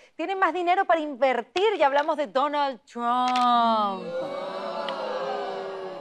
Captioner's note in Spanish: Abucheos